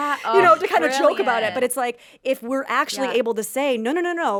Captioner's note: laughs